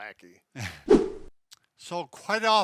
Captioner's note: laughing